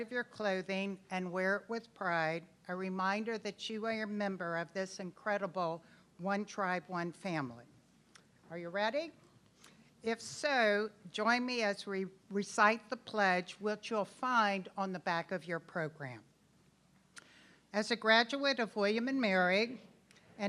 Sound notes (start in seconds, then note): none